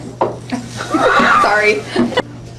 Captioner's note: laughing